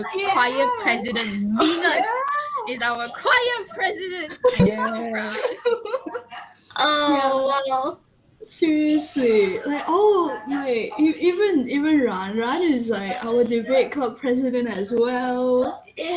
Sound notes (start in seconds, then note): 3.5 laughing